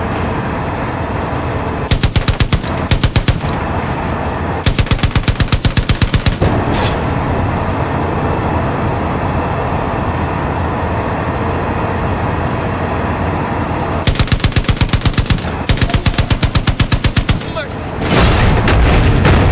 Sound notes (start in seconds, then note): 4.3 gunfire